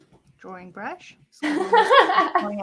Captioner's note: laughter